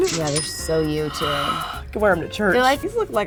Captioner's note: cash sound; gasps